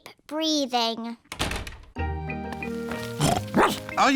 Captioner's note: door shuts; snorts; barks